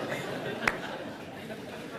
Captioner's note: laughs